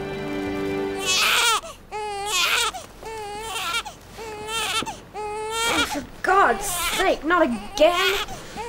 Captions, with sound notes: [Brady wails] Oh for God's sake - not again! [Brady wails]